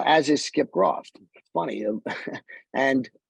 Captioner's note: laughs